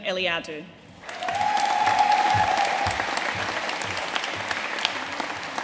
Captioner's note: audience cheering and applauding